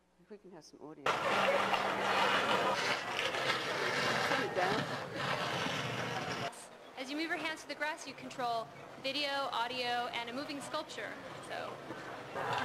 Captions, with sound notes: I think it has some audio. Turn it down. - [Voiceover] As you move your hands to the grass you control, video, audio, and a moving sculpture.